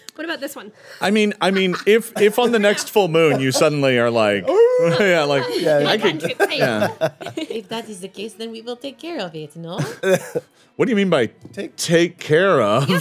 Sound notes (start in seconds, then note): 4.6 howling; 5.8 all laughing